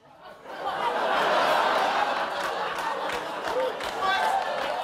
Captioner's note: audience laughing